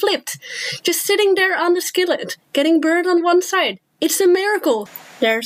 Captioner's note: inhale